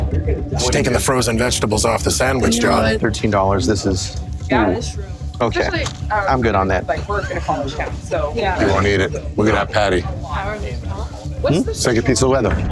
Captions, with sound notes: She's taking the frozen vegetables off the sandwich, Jon. $13, this is, ooh, OK. I'm good on that. [LAUGHS] He won't to eat it. Look at that patty. It's like a piece of leather.